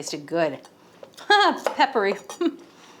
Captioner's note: laughs